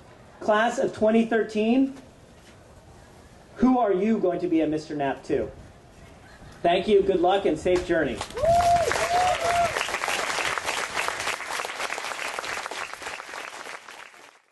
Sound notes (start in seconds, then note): 8.2 applause